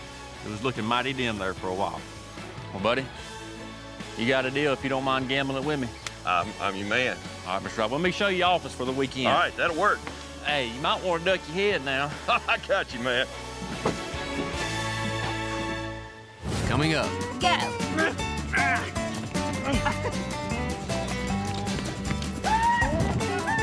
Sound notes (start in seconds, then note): 12.3 laughter